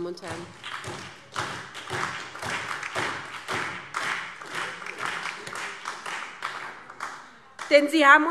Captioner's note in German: Beifall SPD, Freie Demokraten und DIE LINKE